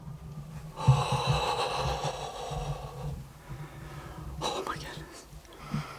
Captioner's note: whispering